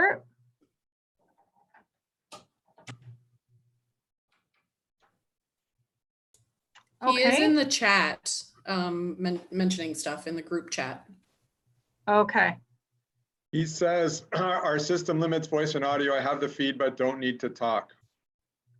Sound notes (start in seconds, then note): 0.8 silence